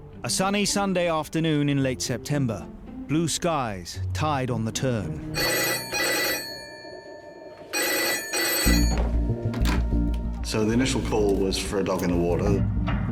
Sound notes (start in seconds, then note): 5.3 phone ringing; 8.9 dramatic music